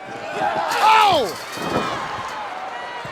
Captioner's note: Jim exclaiming; fence rustling; Sting thudding on ring